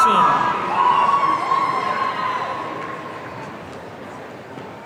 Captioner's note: audience cheering